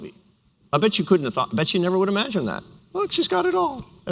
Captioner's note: mock tone